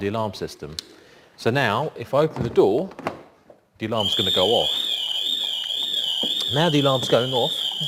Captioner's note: alarm sounds